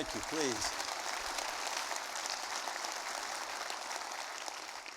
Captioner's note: audience applauding